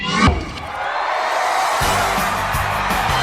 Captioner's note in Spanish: Vítores